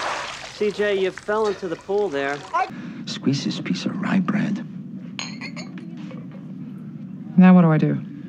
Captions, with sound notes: - C.J., you fell into the pool there. - Squeeze this piece of rye bread. [glasses clink] - Now what do I do?